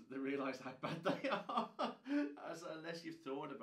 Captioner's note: laughing